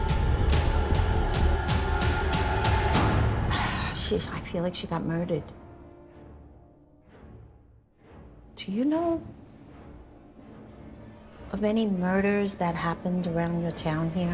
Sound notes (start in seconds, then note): 3.5 sighs